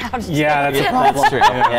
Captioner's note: laughing